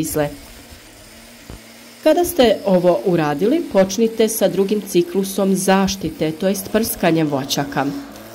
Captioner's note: spraying